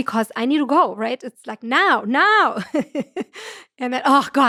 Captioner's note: chuckles